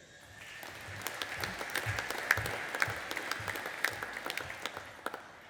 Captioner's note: audience applauding